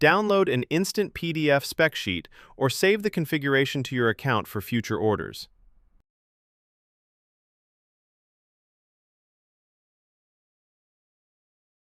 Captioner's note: thoughtful